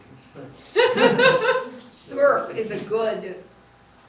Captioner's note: laughter